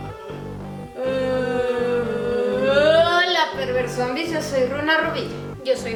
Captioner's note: zombie grunts